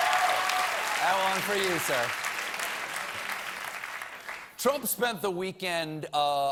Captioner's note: applause